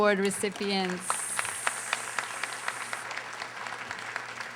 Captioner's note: audience applauding